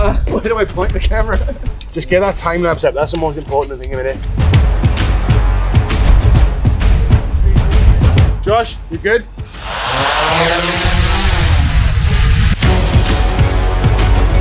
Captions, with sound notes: Where do I point the camera? [Laughs] Just get that timelapse up that's the most important thing a minute Josh, you good? [Drone whirrs]